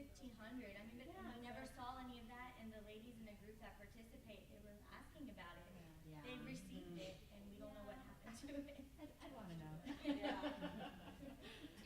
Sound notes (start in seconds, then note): 6.2 murmuring; 7.3 laughs